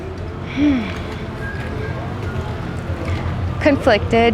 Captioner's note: sighs